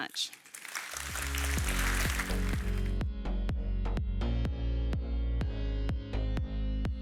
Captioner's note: audience applauds; upbeat music